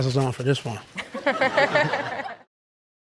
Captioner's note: all laughing